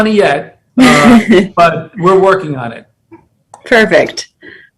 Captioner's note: laugh